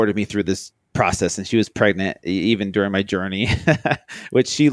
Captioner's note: laughs